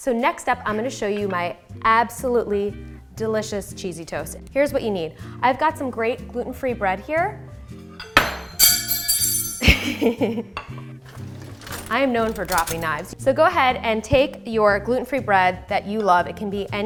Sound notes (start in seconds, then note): 8.2 knife clattering